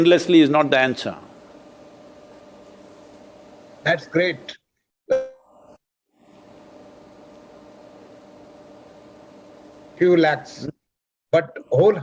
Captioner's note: audio cut